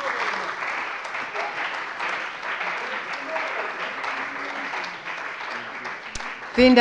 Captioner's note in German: Beifall bei der CDU und dem BÜNDNIS 90/DIE GRÜNEN